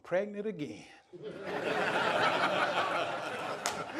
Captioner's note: laughter